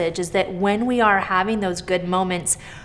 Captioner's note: none